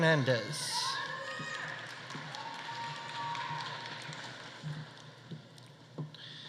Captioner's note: audience cheering; audience applauding